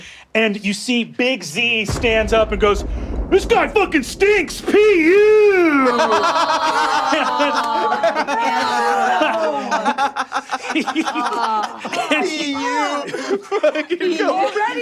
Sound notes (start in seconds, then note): 6.2 laughing; 6.2 players groaning